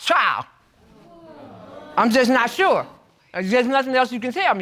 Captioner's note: audience exclaims